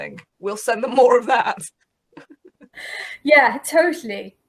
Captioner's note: laughs